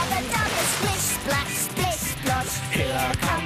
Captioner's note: none